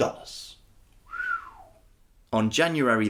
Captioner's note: whistling